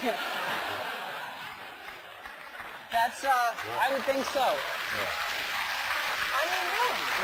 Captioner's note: laugh